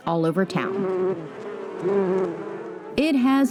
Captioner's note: bees buzzing